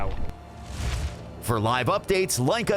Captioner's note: air whooshing